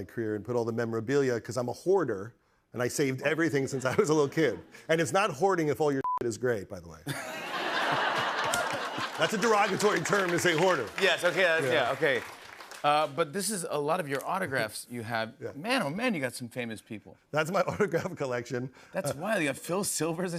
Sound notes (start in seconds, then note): 7.0 laughter